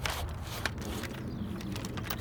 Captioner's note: sawing